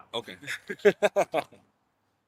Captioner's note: laughing